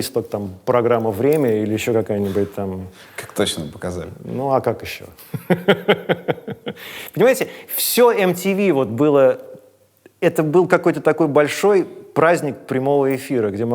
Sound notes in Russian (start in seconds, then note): 5.3 смеётся